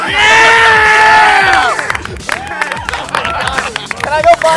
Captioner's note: cheering; applause and laughing